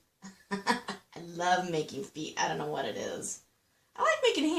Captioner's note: laughing